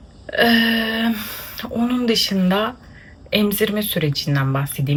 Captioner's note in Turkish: iç çeker